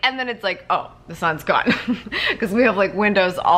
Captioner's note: laughs